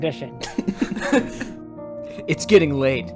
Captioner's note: chuckles throughout the cast